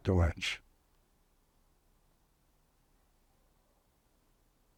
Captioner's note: pauses 13 seconds